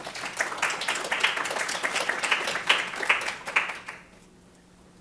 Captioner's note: audience applauding